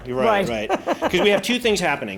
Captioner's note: laughs Loudly